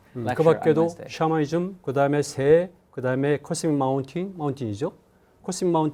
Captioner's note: speaking in Korean